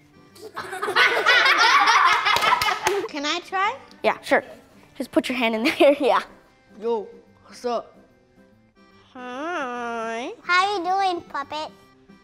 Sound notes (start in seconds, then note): 0.4 laughter; 2.0 clapping